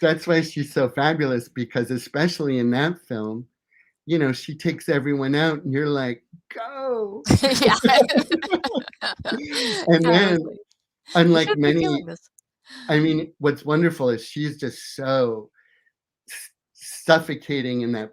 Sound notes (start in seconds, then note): 7.2 both laughing